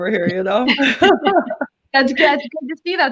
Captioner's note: laughter